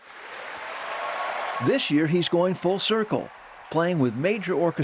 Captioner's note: cheering